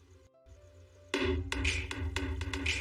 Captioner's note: knocking on wall